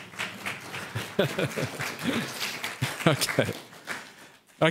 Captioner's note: audience clapping